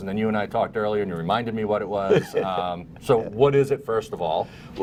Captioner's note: laughter